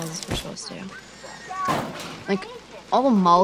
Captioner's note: horse slams into window outside